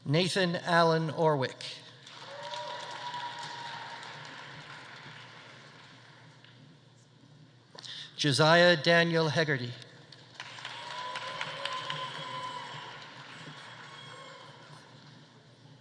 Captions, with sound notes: Nathan Allen Orwick. (audience applauding) (audience cheering) Josiah Daniel Hegarty. (audience applauding) (audience cheering)